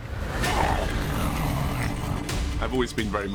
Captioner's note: growling